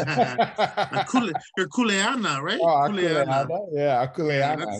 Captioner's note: laughs